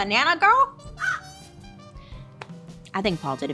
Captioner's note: Joan squawking